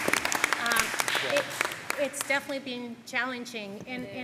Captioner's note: applause